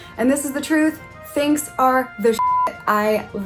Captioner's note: beep